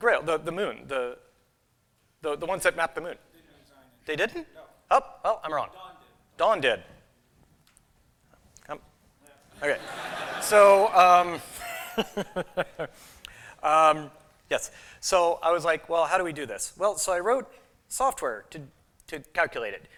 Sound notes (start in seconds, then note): 9.6 laughter; 11.1 laughs